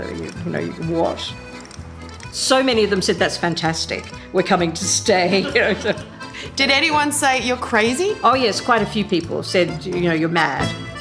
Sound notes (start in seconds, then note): 5.2 both chuckle